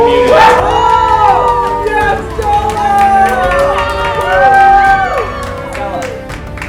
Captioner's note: cheering